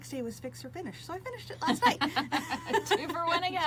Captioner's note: laughs; both laughing